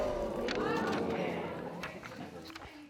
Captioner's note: audience murmuring